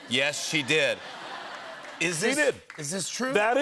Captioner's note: laughter